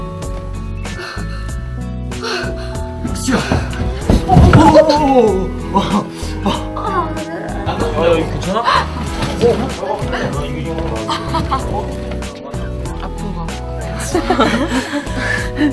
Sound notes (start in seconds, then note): 0.9 short of breath